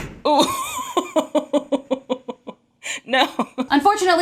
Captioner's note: laughing